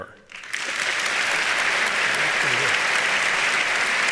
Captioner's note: audience applauds